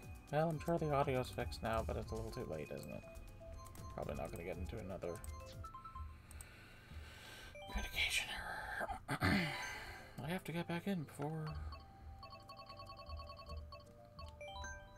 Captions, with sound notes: Well, I'm sure the audio is fixed now, but it's a little too late, isn't it? Probably not going to get into another... "Communication error". (clears throat) I have to get back in before...